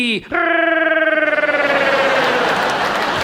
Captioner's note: Sid grumbles; audience laughs